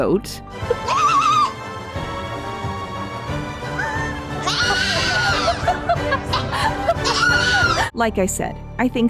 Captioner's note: goat screaming over a scene in the blooper reel while giggles